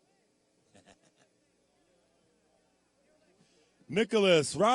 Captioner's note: laughing